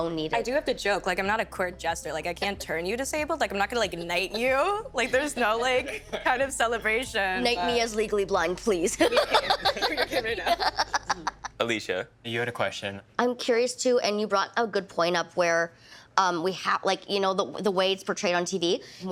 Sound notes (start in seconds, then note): 8.9 laughing